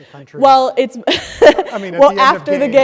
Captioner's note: chuckles